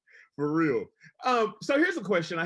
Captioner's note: laughs